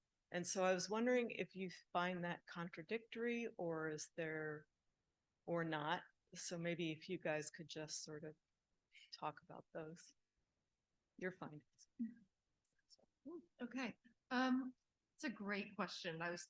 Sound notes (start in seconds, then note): 12.0 whispers